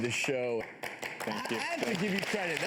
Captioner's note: audience claps